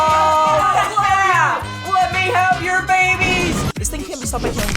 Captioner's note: various cheering ensues